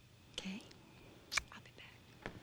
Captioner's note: lips smack